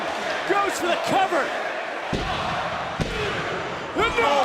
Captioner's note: crowd cheering